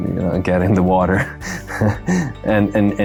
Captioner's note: chuckles